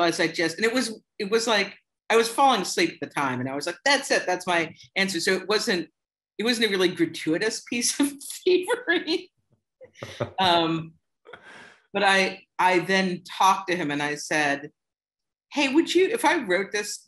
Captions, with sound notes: It was like I was falling asleep the time and I was like, "That's it. That's my answer." It was really like gratuitous piece of thievery [LAUGHTER]. But I then talked to him and I said, "Hey, if I wrote this,